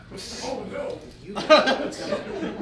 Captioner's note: laughing